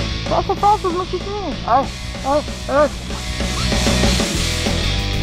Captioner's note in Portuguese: barulho de zíper fechando